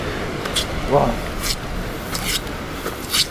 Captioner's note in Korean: 감탄